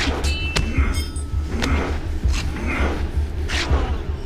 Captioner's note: metal clinking